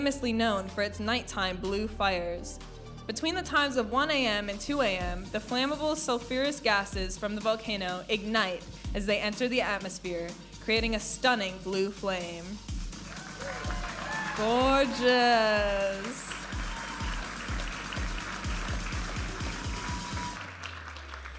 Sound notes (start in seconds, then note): 13.6 audience applauding and cheering; 17.0 audience applauding and cheering; 18.4 vibrant music